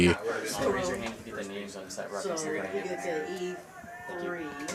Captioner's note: indistinct chatter